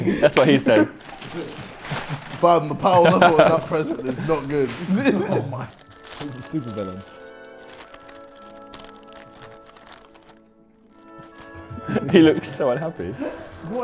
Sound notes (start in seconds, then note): 5.0 laughs